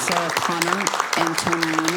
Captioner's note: cheering/Applause